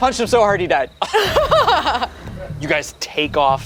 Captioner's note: laughs